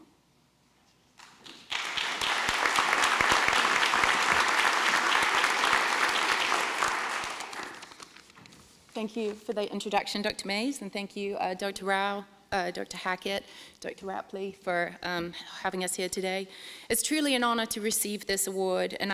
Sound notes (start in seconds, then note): 1.2 applause